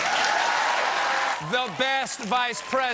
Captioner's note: cheers and applause